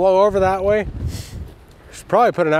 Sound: wind whooshing

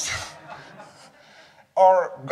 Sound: audience laughing

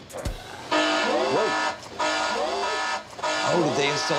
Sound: alarm blares

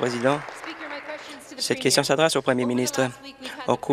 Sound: applause

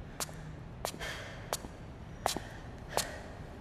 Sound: footsteps; gasp

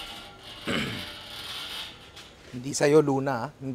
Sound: clears throat

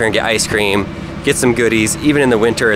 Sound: engine humming

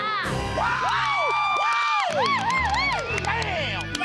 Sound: cheering, clapping

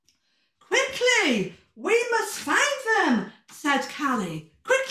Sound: gasp

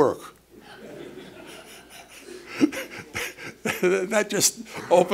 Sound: laughter

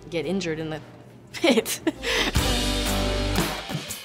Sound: laughs

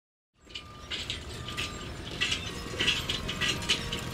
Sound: steel clacking

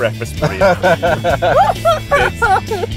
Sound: laughing

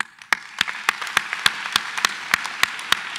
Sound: applause

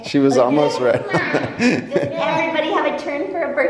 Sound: laughs

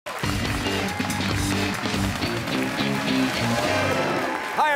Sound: cheers and applause

